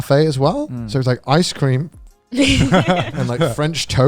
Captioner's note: all laughing